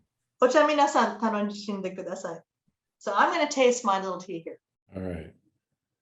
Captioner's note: japanese